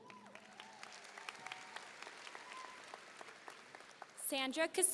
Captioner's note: audience applauding